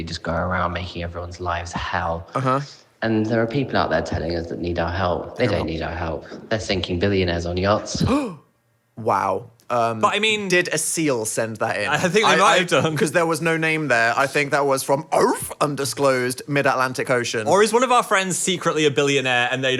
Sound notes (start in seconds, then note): 8.0 gasps; 15.2 imitating a seal